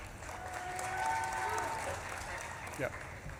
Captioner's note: audience claps and cheers